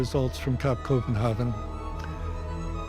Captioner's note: inhales